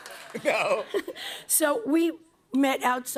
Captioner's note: cheers and applause; laughs